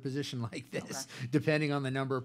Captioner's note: laughs